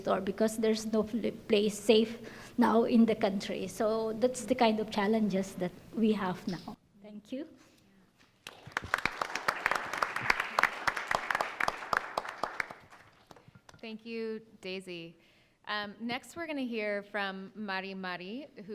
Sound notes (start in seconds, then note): 8.4 audience applauding